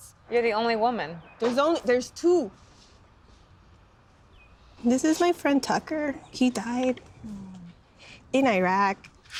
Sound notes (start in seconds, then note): 3.0 birds chirp